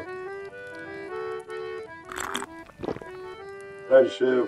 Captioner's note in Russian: прихлебывает чай